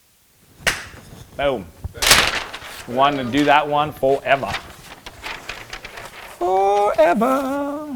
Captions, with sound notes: (claps hands) Boom. (loud crash) Wanted to do that one for forever. Forever.